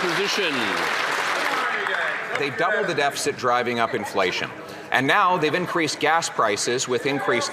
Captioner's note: some Applause